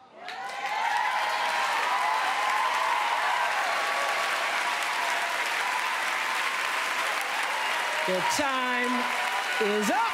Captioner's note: applause